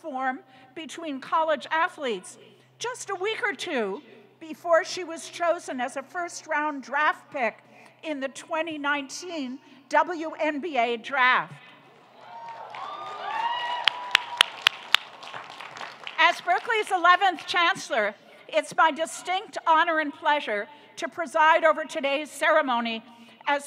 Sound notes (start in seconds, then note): 12.0 applauding; 12.1 audience cheering